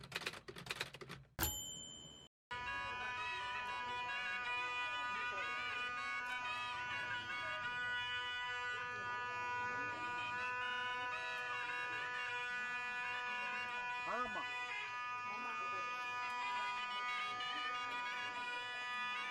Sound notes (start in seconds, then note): 0.0 typewriter dings; 2.6 bull charmer playing his organ